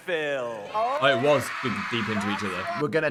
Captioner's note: audience cheering